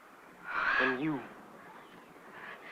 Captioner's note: sigh